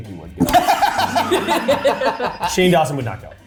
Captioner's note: laughing